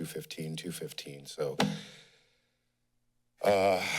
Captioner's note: thud; sigh